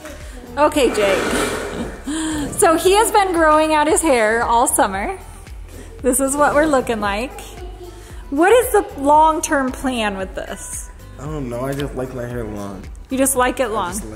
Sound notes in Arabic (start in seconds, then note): 1.1 ضحكات خافتة